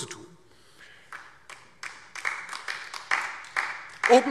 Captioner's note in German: Beifall DIE LINKE